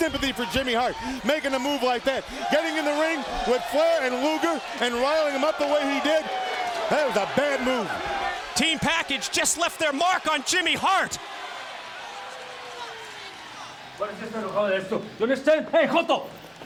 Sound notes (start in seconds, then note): 13.7 crowd cheering